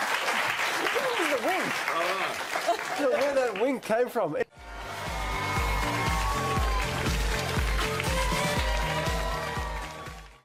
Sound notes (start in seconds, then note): 3.8 applause